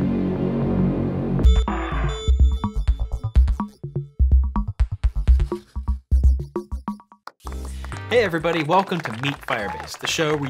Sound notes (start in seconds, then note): 1.4 beeping; 7.4 applause